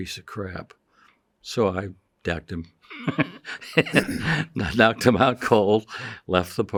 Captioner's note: chuckles